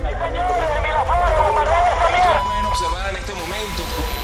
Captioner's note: through radio transmissions